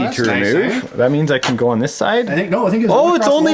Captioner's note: voiceover